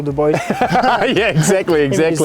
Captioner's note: laughing